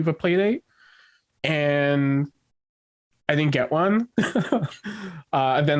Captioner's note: chuckles